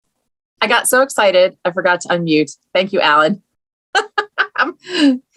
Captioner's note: laughs